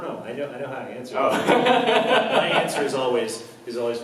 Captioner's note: laughs